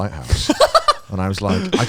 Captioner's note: laughing